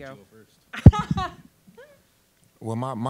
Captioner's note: laughing